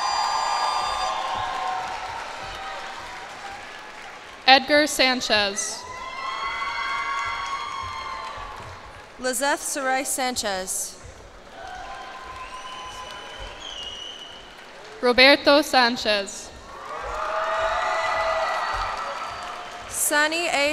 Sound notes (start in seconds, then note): 0.0 cheers and applause; 5.7 cheers and applause; 11.3 cheers and applause; 16.5 cheers and applause